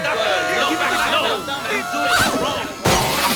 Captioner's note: shouting